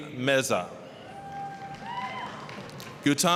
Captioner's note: applause, cheering